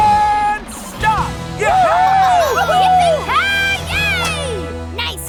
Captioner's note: cheering